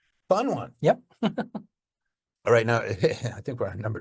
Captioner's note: chuckles